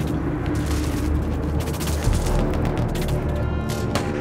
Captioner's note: ominous music; guns firing